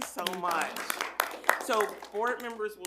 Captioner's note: everyone applauds